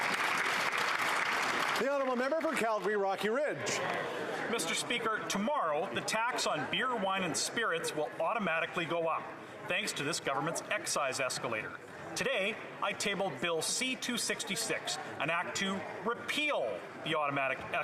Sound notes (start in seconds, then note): 3.3 applause